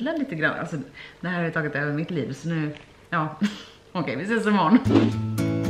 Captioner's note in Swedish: skratt